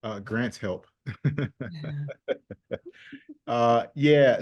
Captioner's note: group chuckles